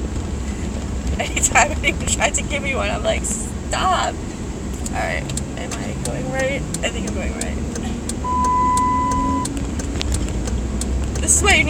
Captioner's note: vehicle screams in protest